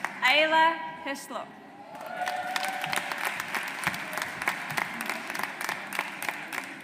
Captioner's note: audience applauds